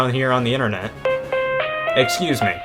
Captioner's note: phone rings